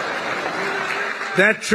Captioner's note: laughter